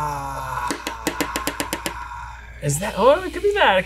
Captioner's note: rapidly taps desk with stylus